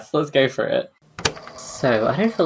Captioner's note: tape recorder clicks on